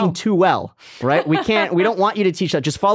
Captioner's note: laughing